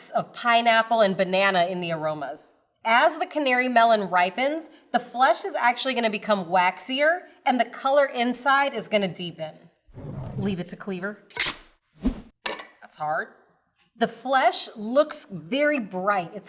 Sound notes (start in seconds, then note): 12.0 knife chops